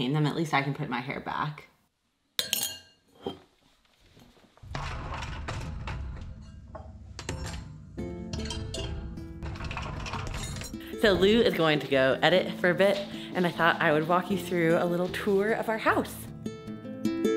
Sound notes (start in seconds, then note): 2.4 spoon clunking in bowl; 8.2 utensils and dishes clunking; 17.1 light guitar music